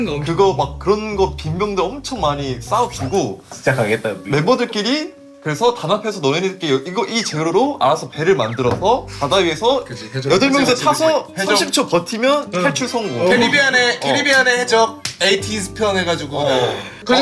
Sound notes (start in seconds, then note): 3.4 in a very serious voice